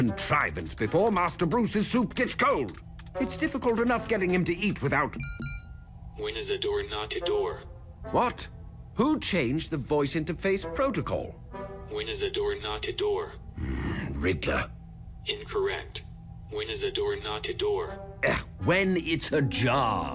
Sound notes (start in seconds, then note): 5.2 electronic ding; 13.5 grumbles